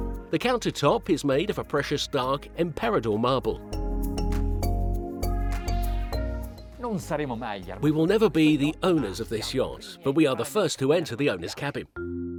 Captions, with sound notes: The countertop is made of a precious dark Emperador marble. (speaking foreign language) We will never be the owners of this yacht, but we are the first to enter the owner's cabin.